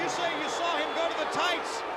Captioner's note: crowd chatter